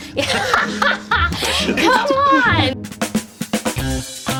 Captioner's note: laughter; upbeat theme music